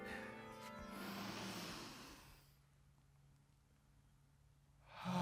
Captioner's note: group panting; group inhaling